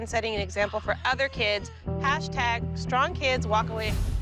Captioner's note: gasps